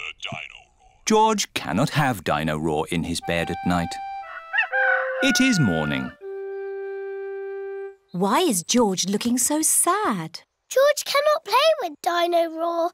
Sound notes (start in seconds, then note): none